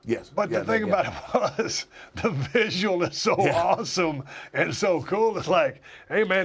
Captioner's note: laugh